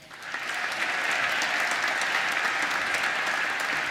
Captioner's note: applause